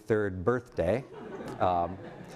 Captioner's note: laughter